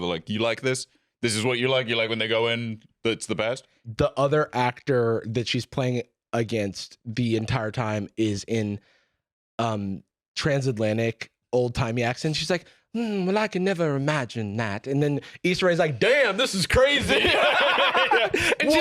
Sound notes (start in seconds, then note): 12.9 dreamily; 17.0 both laughing